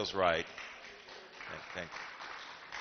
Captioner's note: applause